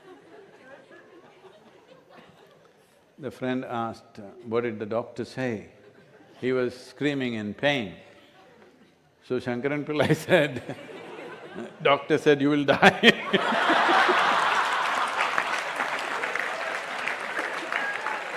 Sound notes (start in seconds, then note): 12.7 laughs; 12.8 laughter/Applause